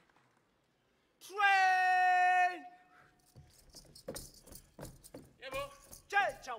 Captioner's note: speaking language other than English